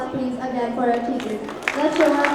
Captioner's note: applause